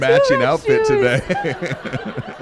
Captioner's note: laughter